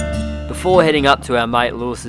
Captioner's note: voiceover